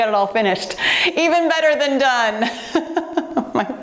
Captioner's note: laughing